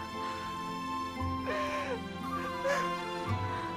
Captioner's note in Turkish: Ağlama sesi